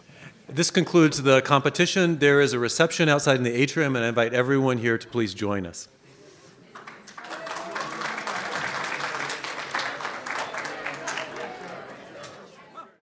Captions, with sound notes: This concludes the competition. There is a reception outside in the atrium and I invite everyone here to please join us. [Audience claps and chatters.]